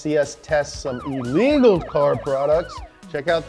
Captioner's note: siren wails